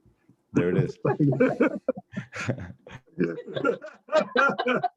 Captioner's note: all laughing